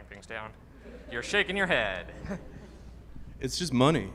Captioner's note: audience laughing